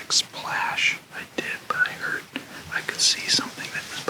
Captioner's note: whispers